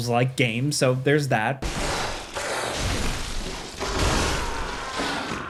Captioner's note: monster growling